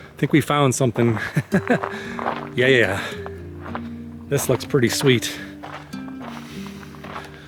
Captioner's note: laughter